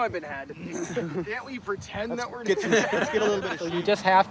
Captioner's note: laughs